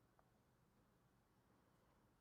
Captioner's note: none